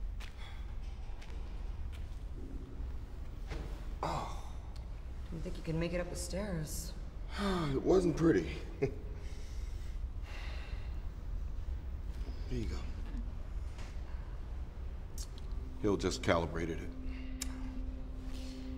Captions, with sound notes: (SIGHS) (GROANS) Didn't think you could make it up the stairs. (SIGHS) It wasn't pretty. (CHUCKLES) Here you go. Hill just calibrated it.